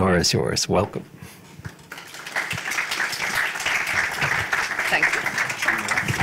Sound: applause

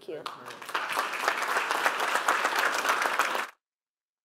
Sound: applause

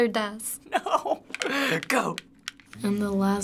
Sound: mashing controller

